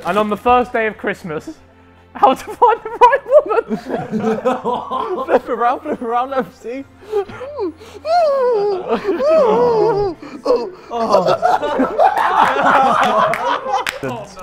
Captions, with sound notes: And on the first day of Christmas, "How To Find The Right Woman". (laughs) - Lift it round, let them see. (laughs) (groaning) (everyone laughing)